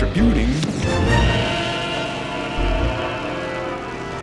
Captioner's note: screaming